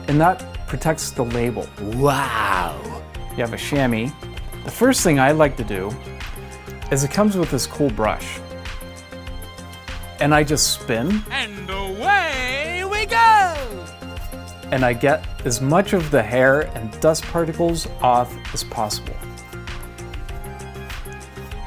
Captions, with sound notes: that protects the label (silly voice wow). You have a shammy. The first thing I like to do is that it comes with this cool brush. And I just spin (silly voice and away we go) and I get as much as the hair and dust particles off as possible.